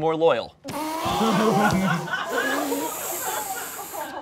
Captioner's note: all laughing